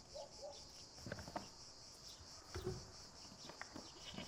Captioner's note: morning sounds of the village